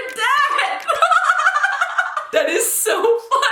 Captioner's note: laughing